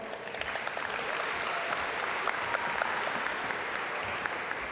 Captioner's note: audience applaud